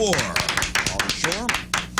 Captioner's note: clapping